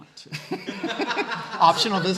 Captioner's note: laughing